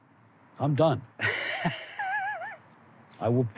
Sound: laughing

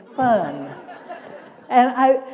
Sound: laughter

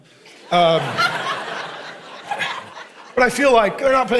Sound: congregation laughing

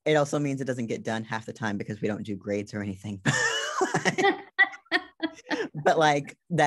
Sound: laughs

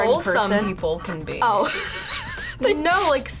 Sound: laughs

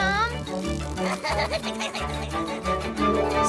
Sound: giggles

